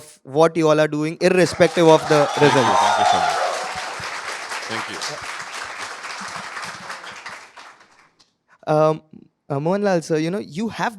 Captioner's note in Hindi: तालियाँ